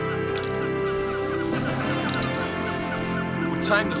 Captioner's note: paint spraying